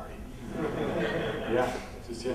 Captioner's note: laughter